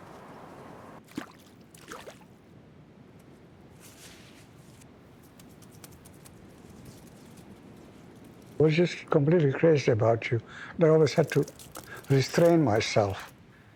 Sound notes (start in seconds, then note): 0.0 water sloshing